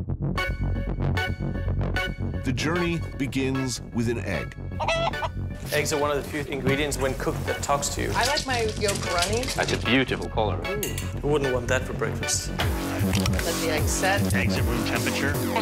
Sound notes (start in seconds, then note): 4.8 bird clucking